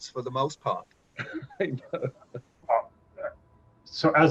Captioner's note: laughs